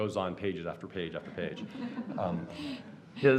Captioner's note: laughter